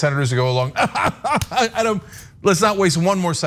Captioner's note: laugh